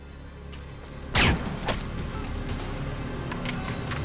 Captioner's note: gun fires